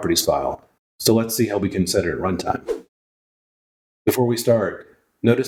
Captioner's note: woosh